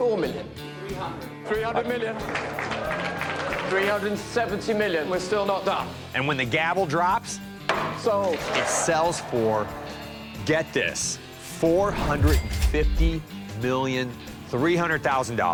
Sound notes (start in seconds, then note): 1.9 applauding